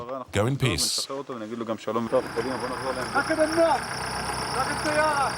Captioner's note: Hebrew spoken audio